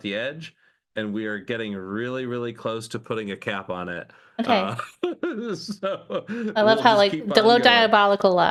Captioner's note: laughing